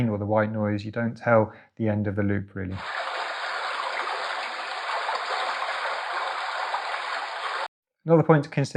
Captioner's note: sound of a brook playing